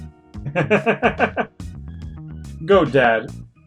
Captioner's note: laughs